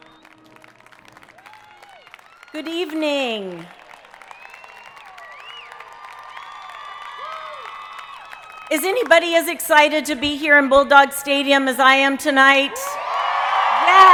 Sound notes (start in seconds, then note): 0.4 audience applauding; 4.3 audience cheering